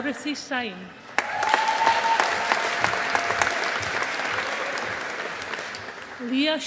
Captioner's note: audience applauding